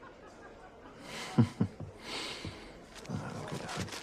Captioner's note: chuckles